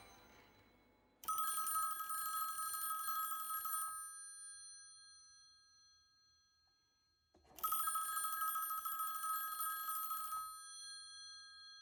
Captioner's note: phone rings